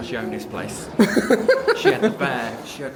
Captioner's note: laughing